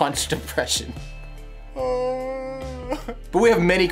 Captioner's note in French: En pleure